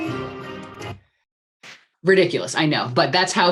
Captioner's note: music and car horn sounds stop